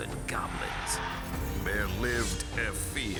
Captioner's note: goblin hissing